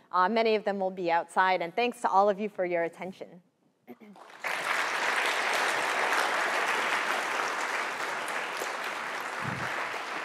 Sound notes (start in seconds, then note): 4.1 applause